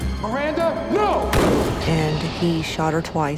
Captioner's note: gunshot